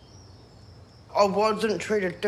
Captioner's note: birds twitter